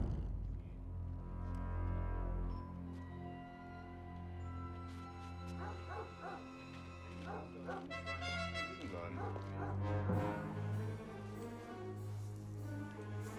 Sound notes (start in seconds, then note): 5.5 dog barking; 8.2 conversing in german